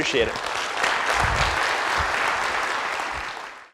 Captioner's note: applause